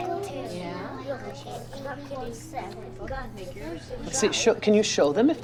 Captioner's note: children chattering